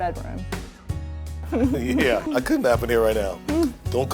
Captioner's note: laughing